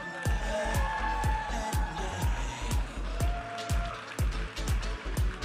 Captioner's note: audience applauding and cheering